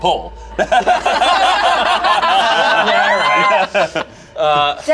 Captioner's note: everyone laughs